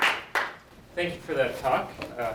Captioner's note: applause